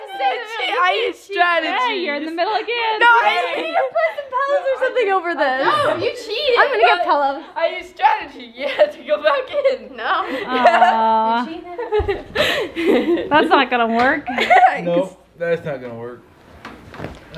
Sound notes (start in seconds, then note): 8.5 laughing